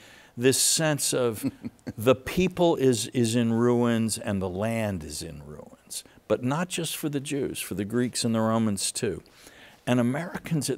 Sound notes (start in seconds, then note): 1.3 laughs